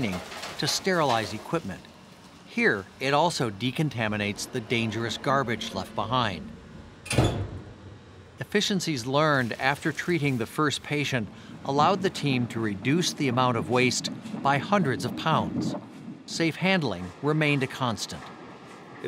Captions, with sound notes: to sterilize equipment. Here, it also decontaminates the dangerous garbage left behind. (closing autoclave door) Efficiencies learned after treating the first patient allowed the team to reduce the amount of waste by hundreds of pounds. Safe-handling remained a constant.